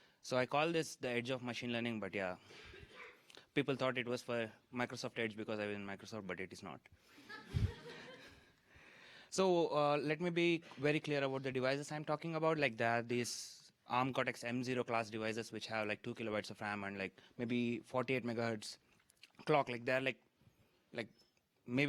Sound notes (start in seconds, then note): 7.2 laughter